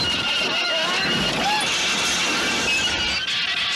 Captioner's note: yells